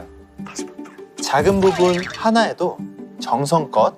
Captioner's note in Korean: 빵 터짐